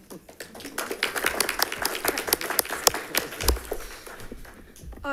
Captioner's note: attendees applauding